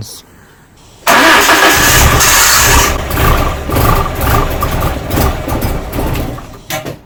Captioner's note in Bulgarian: Двигателят стартира, след splutters след това премахва